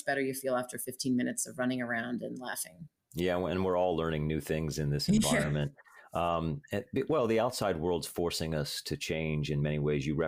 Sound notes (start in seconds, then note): 5.1 chuckles